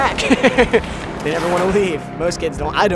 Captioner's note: laughs